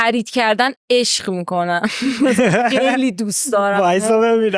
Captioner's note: laughs